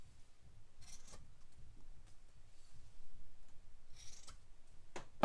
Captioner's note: scissors snipping